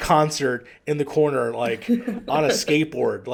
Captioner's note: laughs